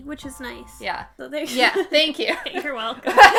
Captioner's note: laughing